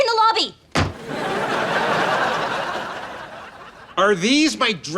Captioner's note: laughs